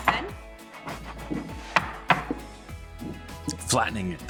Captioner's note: dish clatters